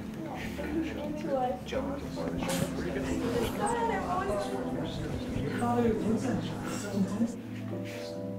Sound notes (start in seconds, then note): 2.4 group chatters